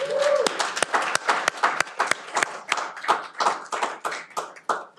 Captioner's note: cheering